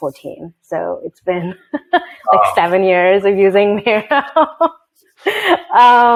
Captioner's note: laughs